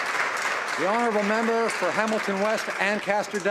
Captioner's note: applause